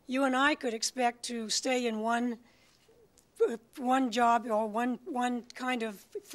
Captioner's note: none